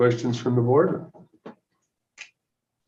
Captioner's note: silence